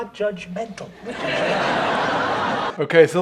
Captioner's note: audience laughs